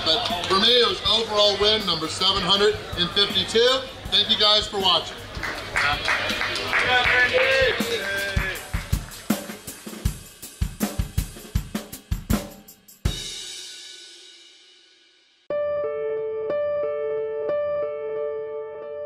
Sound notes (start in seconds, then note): 5.0 crowd clapping; 15.5 peaceful piano music